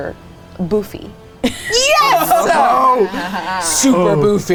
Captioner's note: everyone laughing